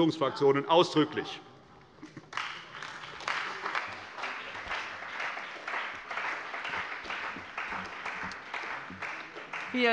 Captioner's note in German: Beifall bei der CDU und dem BÜNDNIS 90/DIE GRÜNEN